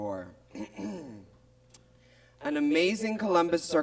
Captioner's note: Miz Cracker clears throat